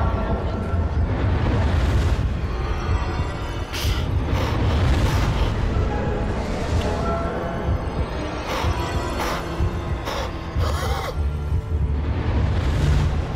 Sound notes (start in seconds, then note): 10.0 panting